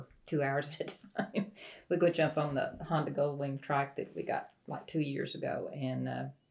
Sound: laughs

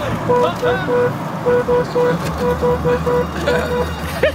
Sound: car horn honking

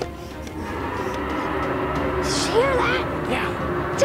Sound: roaring

